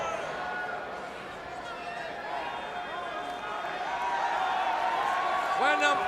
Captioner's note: crowd chatter; crowd cheering